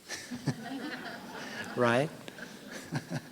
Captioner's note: laughter